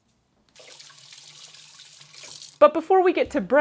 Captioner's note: water sounds